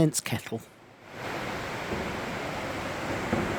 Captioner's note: sound of rushing water